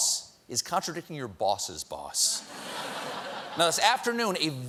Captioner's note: laughter